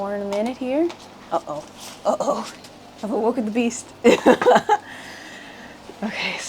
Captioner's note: laughs